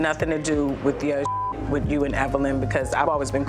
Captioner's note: beep